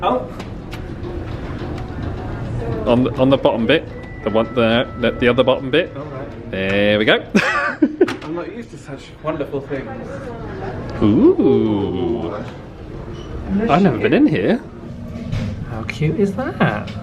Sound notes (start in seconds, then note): 7.3 laughs